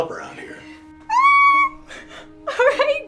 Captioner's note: Jessica squeals